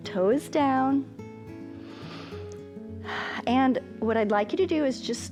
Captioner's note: inhales